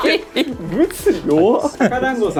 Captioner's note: laugh